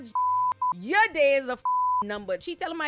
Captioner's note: beep